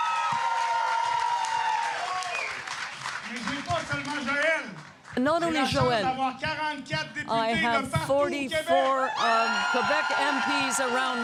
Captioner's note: applause